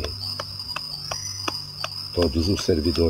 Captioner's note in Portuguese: vibração